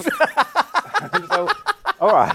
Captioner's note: laughs